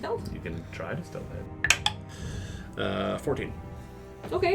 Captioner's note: die clicks in wooden dice tray